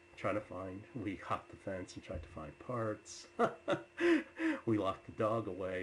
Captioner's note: laughs